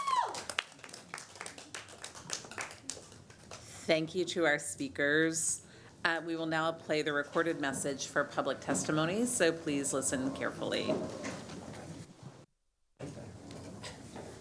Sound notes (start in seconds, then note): 3.3 applause